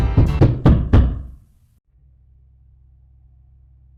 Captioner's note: loud door banging